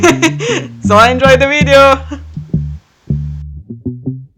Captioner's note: nervous laughter